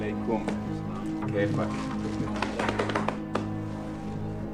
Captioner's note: speaking foreign language